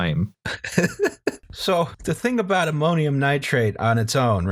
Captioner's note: laughter